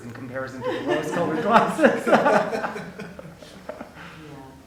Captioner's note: laughing